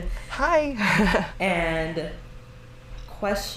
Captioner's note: laughs